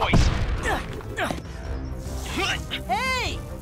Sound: grunting

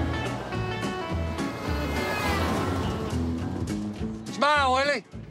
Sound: horn blaring

